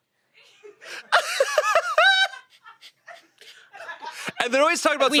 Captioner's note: they laugh